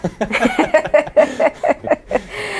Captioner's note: laughing